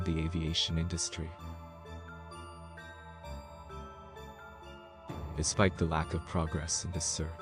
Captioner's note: voice-over